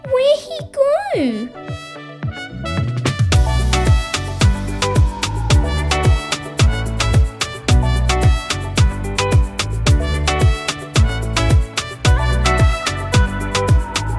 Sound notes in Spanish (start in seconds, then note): none